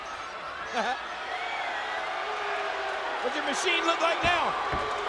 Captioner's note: chuckles